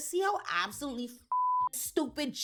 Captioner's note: beep